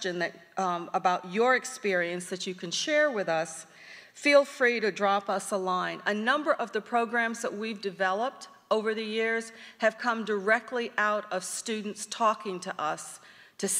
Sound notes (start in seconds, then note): none